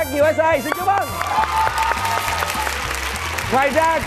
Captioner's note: cheering